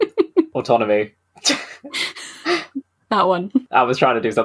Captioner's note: laughing; laughs